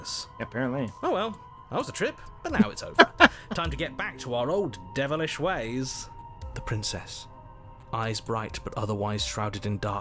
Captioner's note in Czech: smích